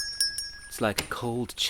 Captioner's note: door opens & Closes